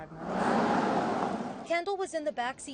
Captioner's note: car zooms